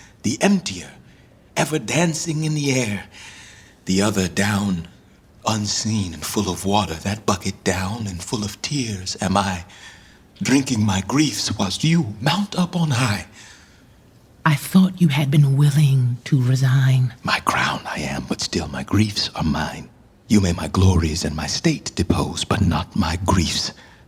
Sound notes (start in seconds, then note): 14.3 quietly